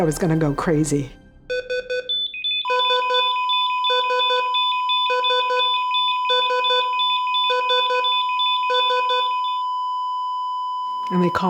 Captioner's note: heart monitor beeping and eventually flatlining